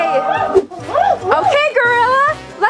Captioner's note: exciting gorilla sounds